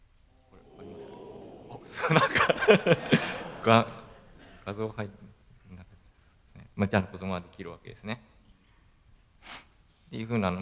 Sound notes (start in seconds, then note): 4.6 laugh